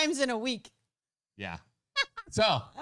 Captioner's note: laughing